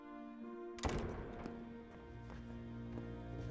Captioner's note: door slams shut